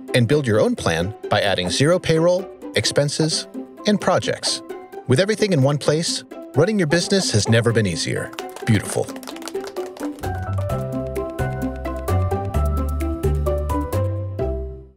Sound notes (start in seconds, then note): 9.5 applauding; 10.6 happy music